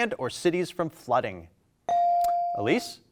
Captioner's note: buzzer dings